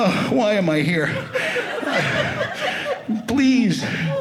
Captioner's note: audience laughing